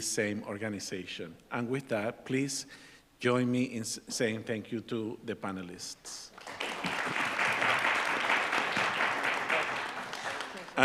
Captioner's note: applause